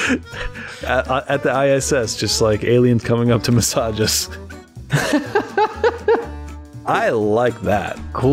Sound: laughter

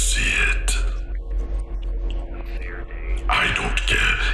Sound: arguing

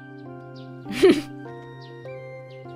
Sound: chuckles

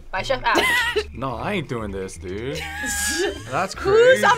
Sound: React laughs

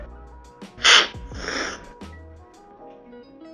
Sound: slurping

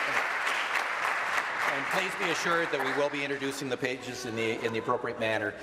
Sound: applause

